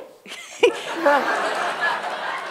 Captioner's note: laughter